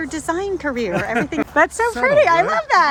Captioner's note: laughing